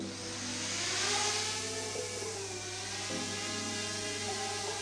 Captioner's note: drone whirring